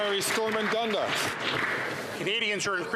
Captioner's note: some Applause